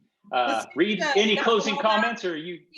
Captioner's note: speaking faintly